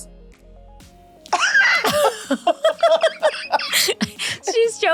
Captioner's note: both laughing